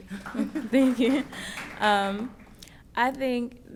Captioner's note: applause; laughs